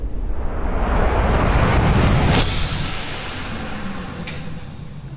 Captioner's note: vortex rushes